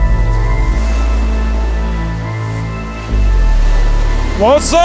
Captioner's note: waves crashing